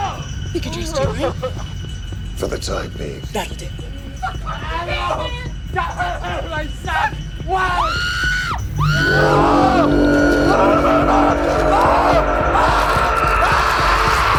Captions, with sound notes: We can trust you, right? - For the time being. - That'll do. (Casey and Russell yell indistinctly) - My son! Why? (Casey screams) (Russell screams) (intense music)